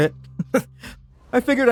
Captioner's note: laughs